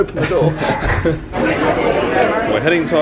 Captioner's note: guests talking loudly